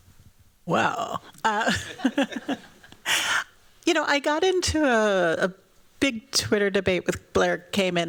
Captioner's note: laughs